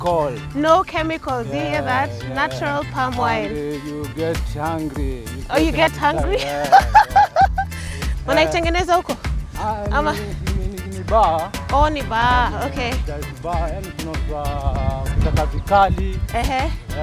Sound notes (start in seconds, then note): 6.2 laughter